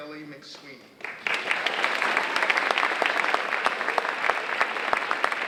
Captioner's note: audience applauding